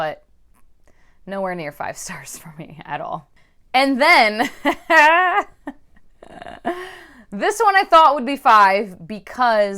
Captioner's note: sarcastic laughter